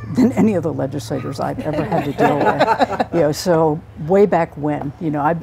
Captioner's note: laughter